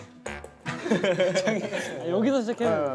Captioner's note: giggling over a ping-pong ball